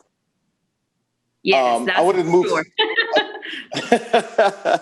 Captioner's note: laughs